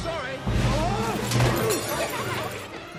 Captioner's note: glass smashes